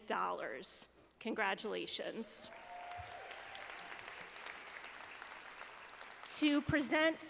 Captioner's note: audience applauding